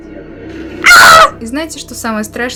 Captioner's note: screaming